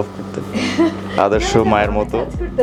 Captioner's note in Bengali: হাসি